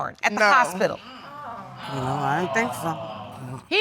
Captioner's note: crowd gasping